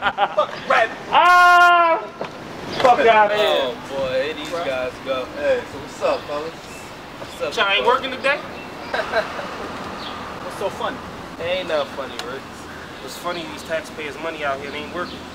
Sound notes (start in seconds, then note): 0.0 bunch of laughing; 8.8 giggle